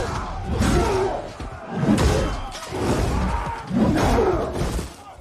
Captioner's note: grunting